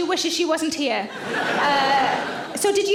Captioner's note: audience laughing